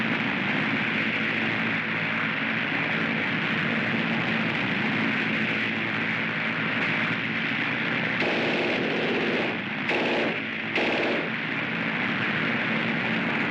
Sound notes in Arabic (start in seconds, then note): 0.0 هدير الطائرة; 8.1 اطلاق نار من مدفع رشاش